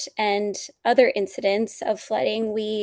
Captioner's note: none